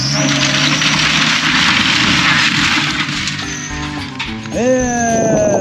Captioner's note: building crumbling